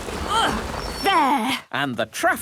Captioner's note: grunts